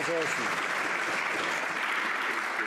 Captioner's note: some Applause